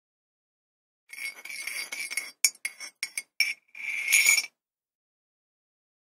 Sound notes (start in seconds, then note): 1.1 sound of stirring